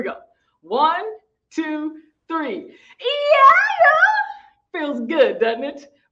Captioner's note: shouting